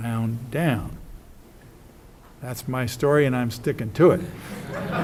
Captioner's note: audience: Laughs